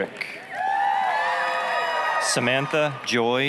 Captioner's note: applause, cheering